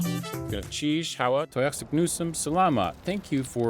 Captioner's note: speaking Indigenous language